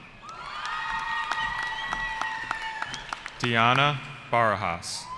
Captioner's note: cheering